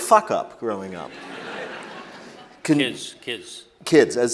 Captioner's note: laughter